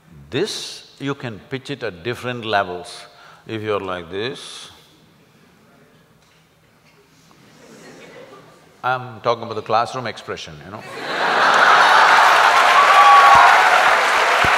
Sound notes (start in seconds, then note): 10.8 laughter\Applause